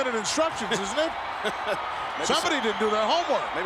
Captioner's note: laughing